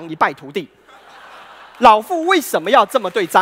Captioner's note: laughter and applause